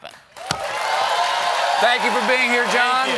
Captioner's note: cheers and applause